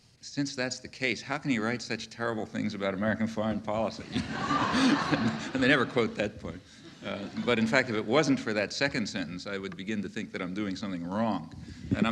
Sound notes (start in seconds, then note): 4.0 audience laughing; 4.0 Noam laughing